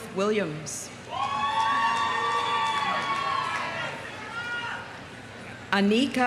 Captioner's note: audience cheering; audience applauding